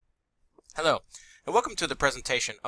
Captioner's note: voiceover